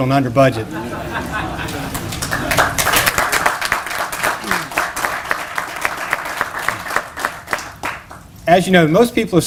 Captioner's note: laughter, applause